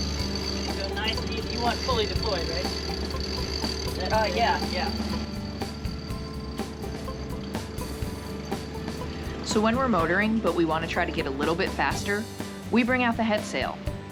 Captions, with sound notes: You want it fully deployed right? Yeah, yeah. (sound of wench cranking) So when we're motoring and we what to try to get a little bit faster, we bring out the head sail.